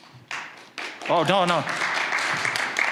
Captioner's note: applause